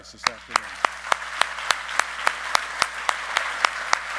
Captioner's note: all clapping